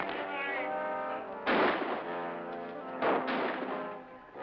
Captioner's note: Mutineers shouting